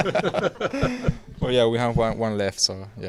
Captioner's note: laughing